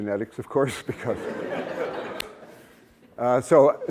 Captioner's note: laughter